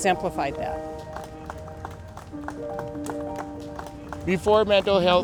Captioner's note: applause